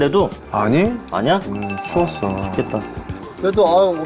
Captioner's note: shivering